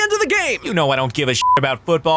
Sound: beep

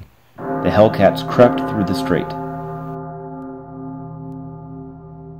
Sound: gongs

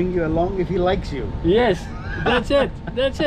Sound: laughing

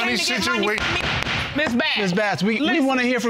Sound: gavel banging

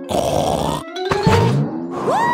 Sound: snorts

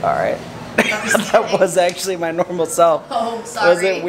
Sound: laughs

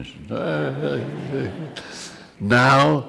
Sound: laughs

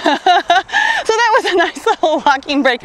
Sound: laughs

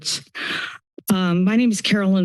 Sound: inhales

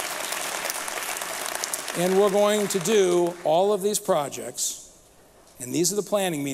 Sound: applause

